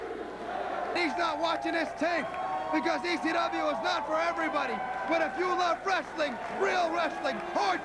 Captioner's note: crowd cheering